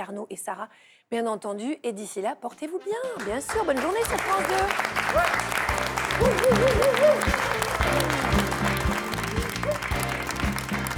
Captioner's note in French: applaudissements